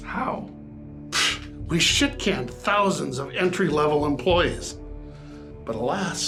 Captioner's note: puffs